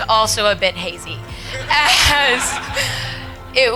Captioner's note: laughing